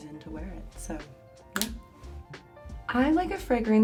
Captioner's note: lid clicking